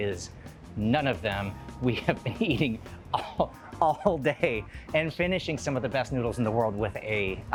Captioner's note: laughing